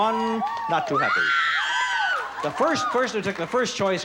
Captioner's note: loud, excited cheering